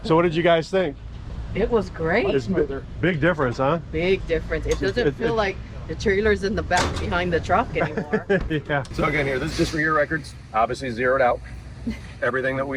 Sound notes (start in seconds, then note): 6.7 door shuts; 7.8 laughs